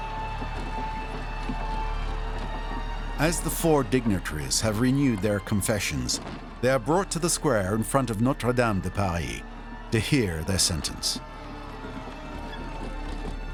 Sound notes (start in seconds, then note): 0.3 crowd cheers; 3.0 horse and cart noises